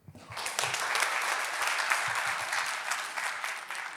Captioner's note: attendees clapping